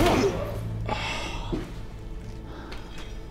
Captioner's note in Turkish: İnilti sesi